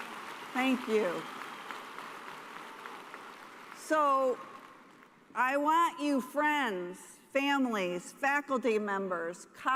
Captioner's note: applause